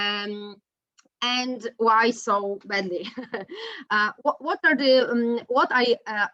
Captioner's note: laughs